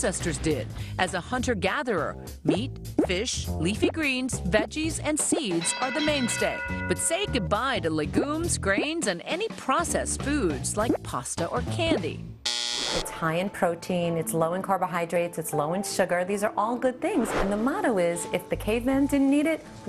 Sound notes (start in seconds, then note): 12.4 buzzer